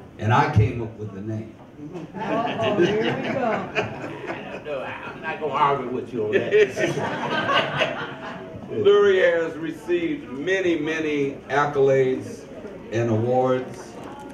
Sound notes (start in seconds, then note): 2.3 laughs; 6.3 all laugh